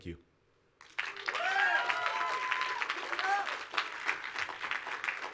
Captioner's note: audience applauds